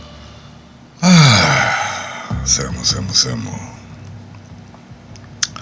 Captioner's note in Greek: αναστεναγμός